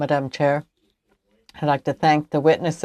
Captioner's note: speaking French